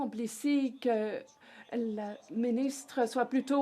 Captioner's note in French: voix de l'interprète